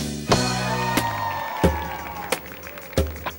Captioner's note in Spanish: Ovación